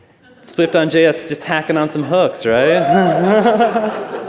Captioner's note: laughter